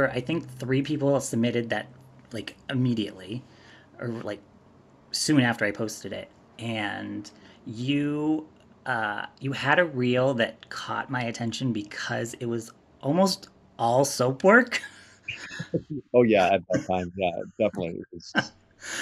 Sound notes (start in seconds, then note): 15.4 both laugh